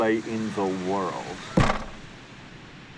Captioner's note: thumping sound